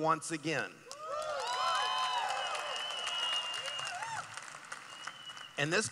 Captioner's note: cheering